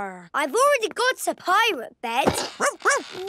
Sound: barking

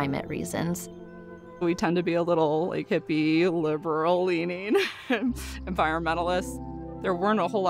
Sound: chuckles

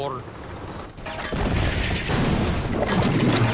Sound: cannon shots exploding; metal clanging from gunfire; water splashing

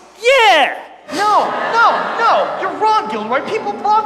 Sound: audience laughs

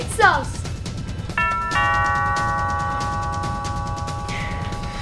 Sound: doorbell rings

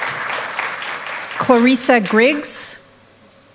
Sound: applause

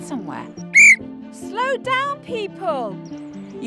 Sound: whistles

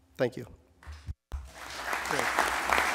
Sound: applause

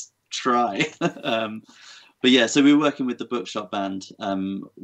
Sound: laughs

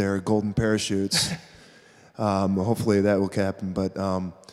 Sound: chuckling

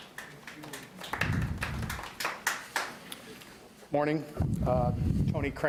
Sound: audience applauds

